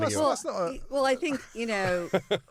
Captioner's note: laughing